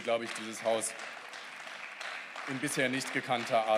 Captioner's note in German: Beifall